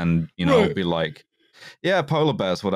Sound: yawning

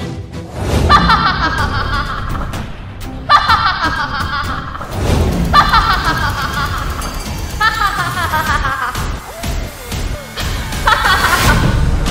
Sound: laughing

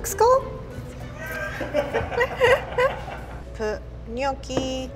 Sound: laughing of camera

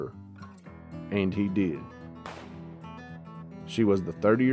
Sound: gunshot popping

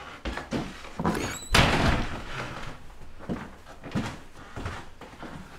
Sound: door slams; footstep on floor

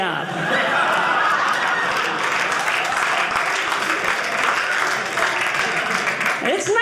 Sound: audience cheering

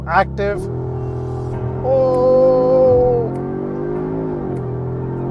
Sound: car engine revving

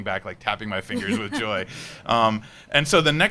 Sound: laughing

